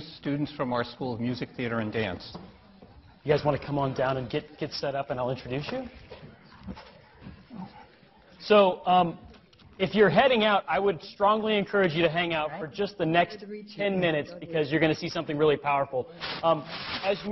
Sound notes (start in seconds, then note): none